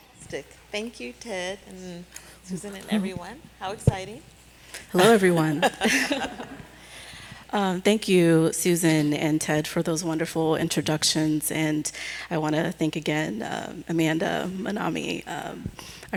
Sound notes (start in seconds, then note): 5.0 laughing